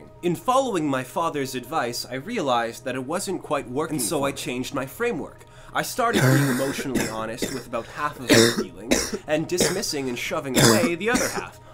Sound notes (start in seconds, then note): 5.5 coughing; 10.5 coughing